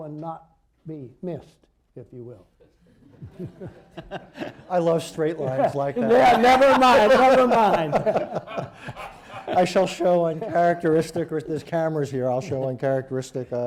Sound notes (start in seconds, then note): 3.4 laughter; 8.7 laughter